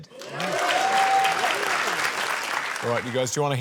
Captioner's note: cheering, applause